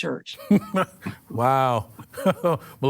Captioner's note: chuckles